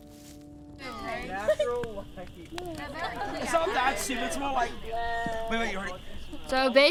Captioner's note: contestants chattering and laughing